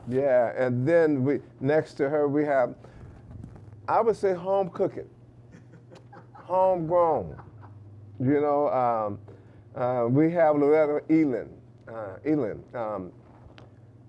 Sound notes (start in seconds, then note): 5.5 laughing